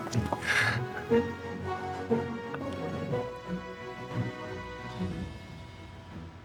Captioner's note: laughter